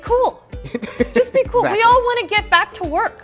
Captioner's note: laughs